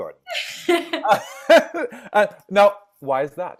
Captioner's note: laughing